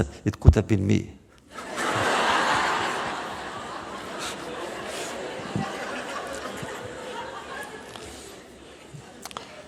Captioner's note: laughter